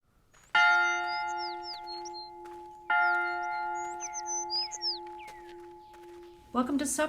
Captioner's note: bell ringing